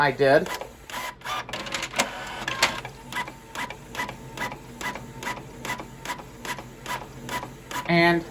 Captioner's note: document continues printing